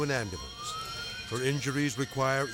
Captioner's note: sirens blaring